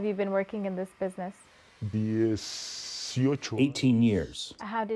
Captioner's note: through translator